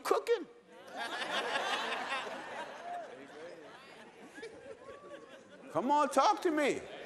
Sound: laughter

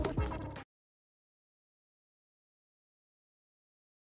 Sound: silence

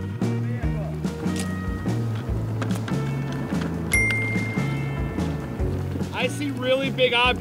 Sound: bell ringing; upbeat music continues

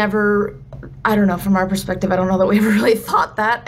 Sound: chuckles

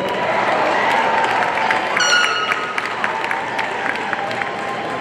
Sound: audience cheering and applauding

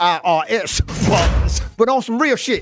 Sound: bars slamming

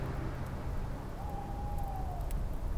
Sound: bird hoots

